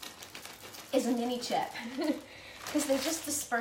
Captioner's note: laughs